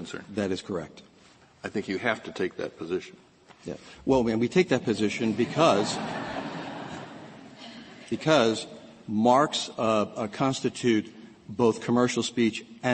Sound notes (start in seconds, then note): 5.2 laughter